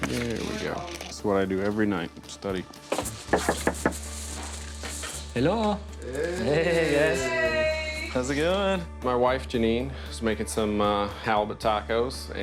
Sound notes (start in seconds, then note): 2.9 knocking